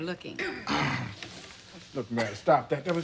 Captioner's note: sighing